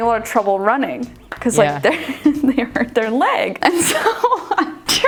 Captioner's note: laughs